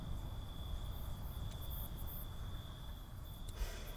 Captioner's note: crickets chirp